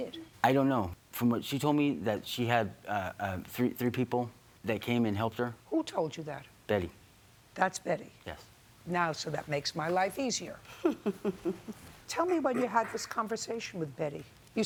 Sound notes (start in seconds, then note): 10.7 chuckle